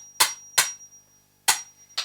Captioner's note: off-screen: ting ting ting ting; ting